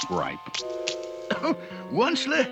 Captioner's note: coughs